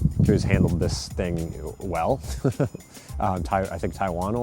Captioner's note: laughs